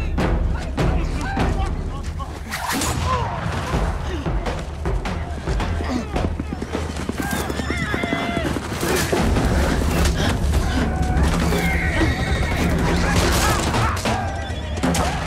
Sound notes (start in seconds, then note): 2.6 gun shot